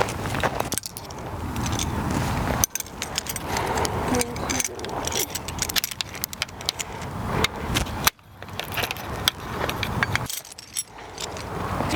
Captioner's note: screws clanking